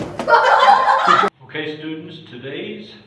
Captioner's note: crashes; laughter